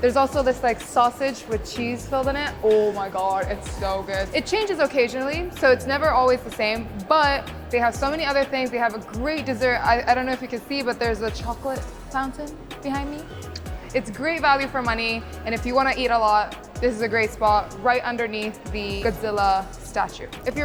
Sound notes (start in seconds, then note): 13.3 lips smooching